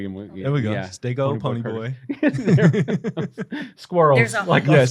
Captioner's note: laughter